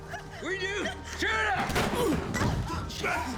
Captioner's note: gunshot